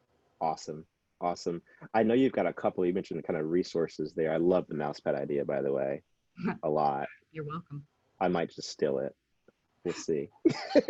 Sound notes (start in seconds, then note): 6.6 chuckles